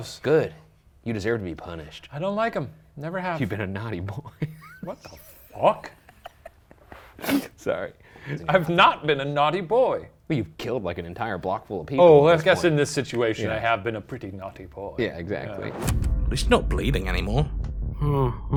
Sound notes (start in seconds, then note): 4.2 laughs; 15.8 ominous music; 18.3 whimpers